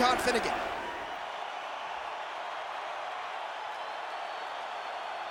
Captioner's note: crowd cheering